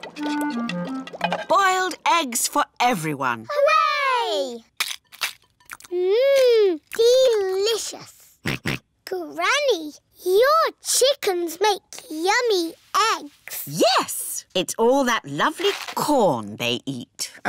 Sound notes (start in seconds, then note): 8.5 george oinks